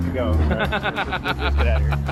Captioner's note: laughing